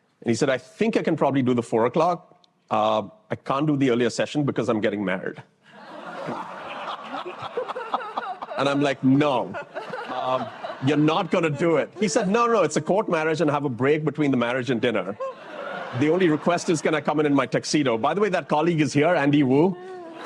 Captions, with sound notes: And he said, I think I can probably do the 4:00 o'clock. I can't do the earlier session because I'm getting married. [LAUGHTER] And I'm like, no, you're not going to do it. He said, no, no, no. It's a court marriage, and I have a break between the marriage and dinner. The only request is, can I come in in my tuxedo? By the way, that colleague is here, Andy Wu.